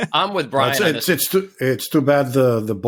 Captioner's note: laughs